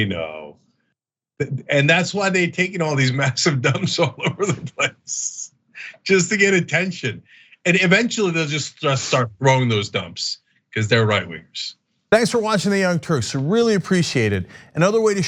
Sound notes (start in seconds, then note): 3.7 laugh